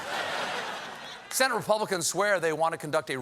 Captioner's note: laughter